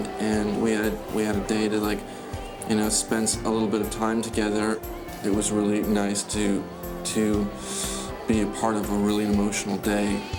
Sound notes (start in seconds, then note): 7.5 inhales sharply